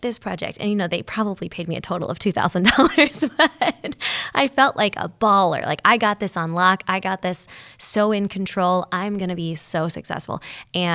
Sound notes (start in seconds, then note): 2.6 laughing